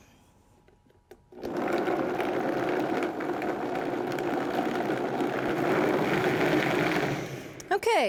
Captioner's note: blender Noise